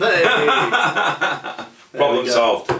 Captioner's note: laughs